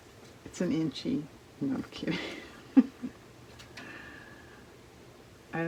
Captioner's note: laughs